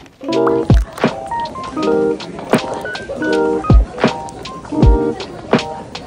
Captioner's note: 분주한 발걸음